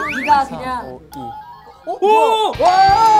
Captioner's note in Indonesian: Bip yang jernih & manis